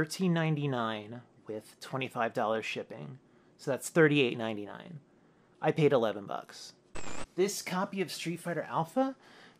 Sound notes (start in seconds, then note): 6.9 static